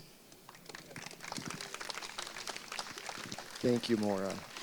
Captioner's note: audience applauding